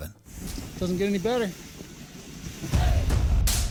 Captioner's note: laughing; upbeat rock music